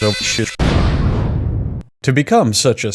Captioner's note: boom